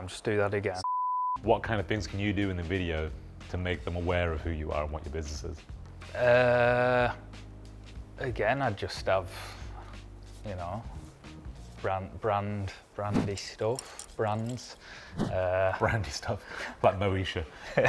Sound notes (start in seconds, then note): 0.8 screen beeps